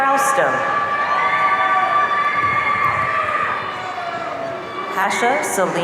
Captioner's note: audience cheering